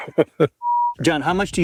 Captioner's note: both laughing; program beeps